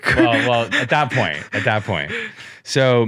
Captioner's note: laughs